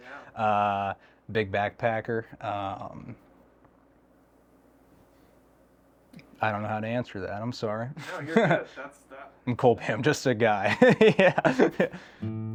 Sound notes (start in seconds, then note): 8.0 laughing; 10.7 laughing